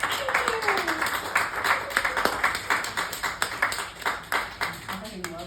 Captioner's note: exclamation and applause; applause